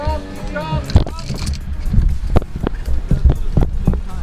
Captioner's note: sound of window rolling down, and yelling in the background